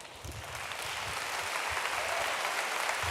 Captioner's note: applause